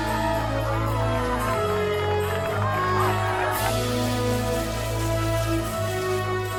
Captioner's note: applauding; crowd cheering